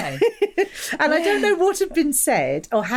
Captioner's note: laughs